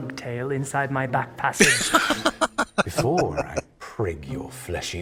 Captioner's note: laughing